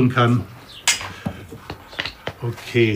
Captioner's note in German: Klackern